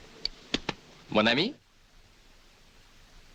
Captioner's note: speaking french